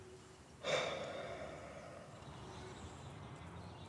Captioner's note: sighs